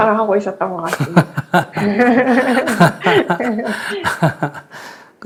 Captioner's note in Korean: 스님 / 질문자 웃음